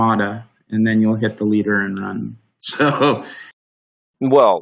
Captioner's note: chuckles